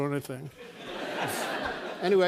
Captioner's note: laughter